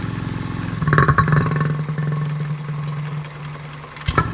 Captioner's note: gurgling